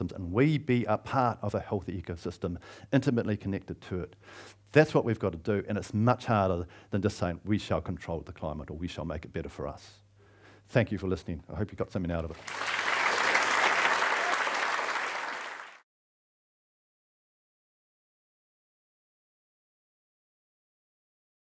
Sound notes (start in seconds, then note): 12.3 audience applauds